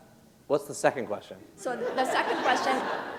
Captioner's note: laughter